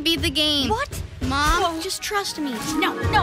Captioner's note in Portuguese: Latidos bonito